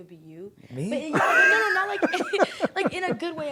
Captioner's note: laughs